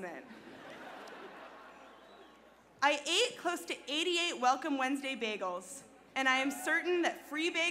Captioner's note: laughter